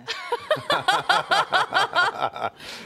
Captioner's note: laughter